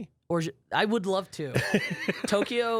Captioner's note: laughs